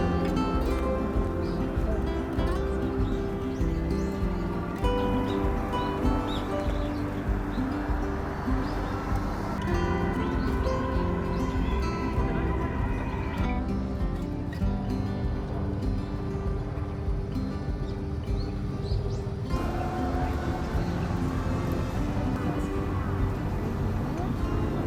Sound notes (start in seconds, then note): 13.3 laughs